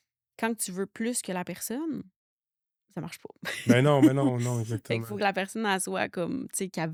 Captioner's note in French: rires